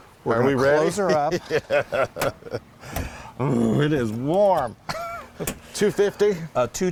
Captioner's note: laugh